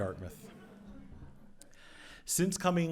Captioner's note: audience laughs